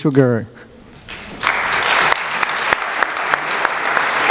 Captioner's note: applause